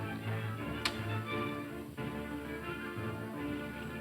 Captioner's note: taps